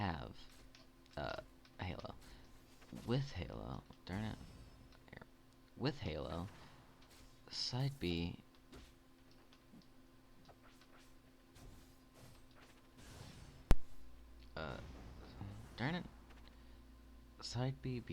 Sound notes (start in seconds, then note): 8.7 silence but shorter this time